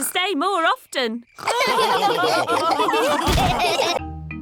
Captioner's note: all laughing